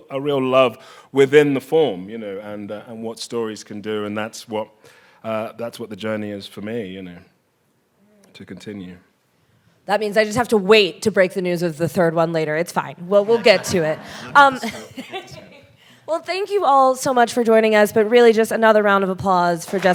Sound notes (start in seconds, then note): 13.2 chuckles